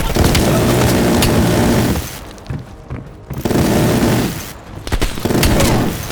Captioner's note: gunfire